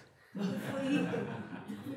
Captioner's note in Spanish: risas